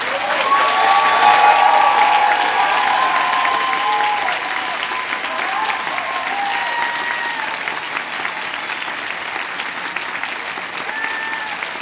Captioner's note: cheers and applause